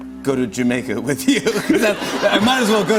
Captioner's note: laughter